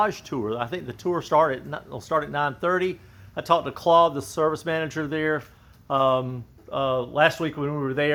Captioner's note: um uh